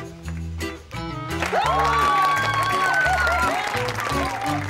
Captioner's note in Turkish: Sevinç çığlıkları; Alkışlıyorlar